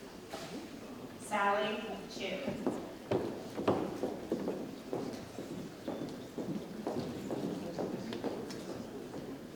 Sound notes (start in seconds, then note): 3.1 shoes tapping